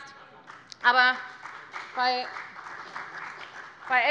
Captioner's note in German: Beifall bei der FDP